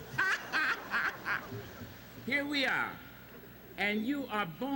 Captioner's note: laughing